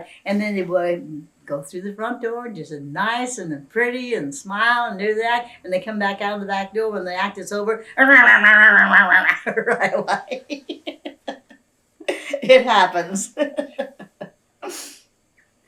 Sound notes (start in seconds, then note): 7.9 imitates arguing; 11.8 laughs